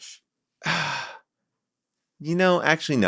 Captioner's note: sighs